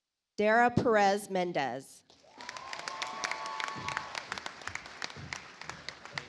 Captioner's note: audience applauds